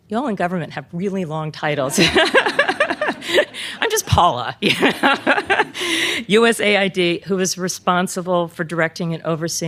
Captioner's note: laughter